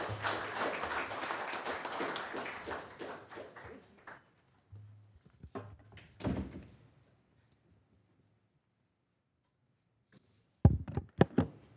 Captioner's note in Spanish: aplausos